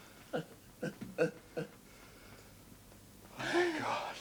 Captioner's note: Dorian sobs